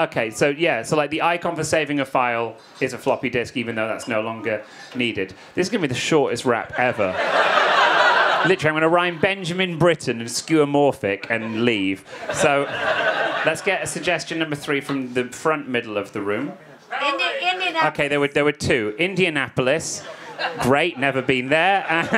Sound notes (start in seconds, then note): 6.6 audience laughing